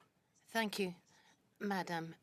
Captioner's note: speaking in French